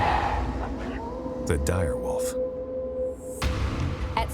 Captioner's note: wolf howling